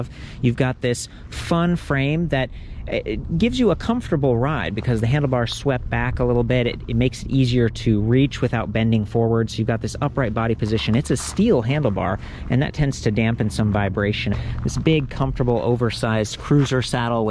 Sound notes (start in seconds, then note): none